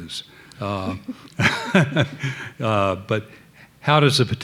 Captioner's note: laughing